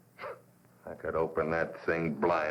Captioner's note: scoffs